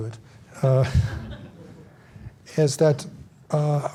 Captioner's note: audience laughs